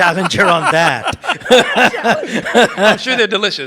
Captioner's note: participants laugh